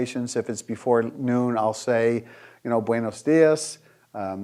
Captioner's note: speaking foreign language